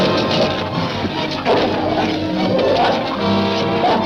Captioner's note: dog snarling